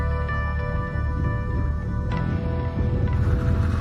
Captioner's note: engine rumbling; engines revving